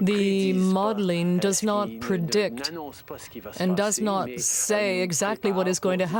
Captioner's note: speaking French